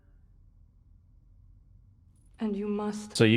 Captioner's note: silence